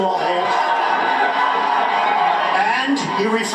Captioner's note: cheering